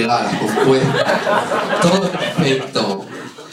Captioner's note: laughter